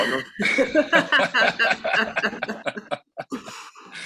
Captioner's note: members laugh